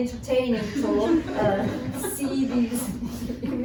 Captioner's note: laughter